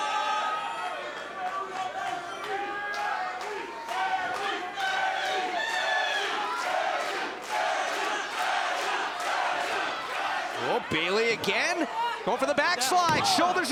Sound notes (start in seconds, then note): 1.5 crowd chatter; 3.1 crowd cheering